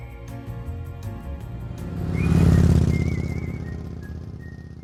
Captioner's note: gentle upbeat music; motorcycle engine revving